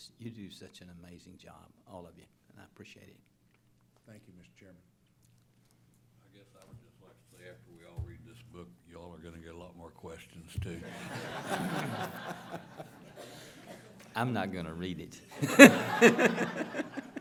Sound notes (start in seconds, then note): 10.8 laughter; 15.3 laughter